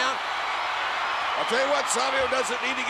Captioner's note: spectators cheering